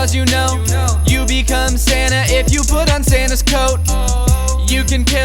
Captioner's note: oooh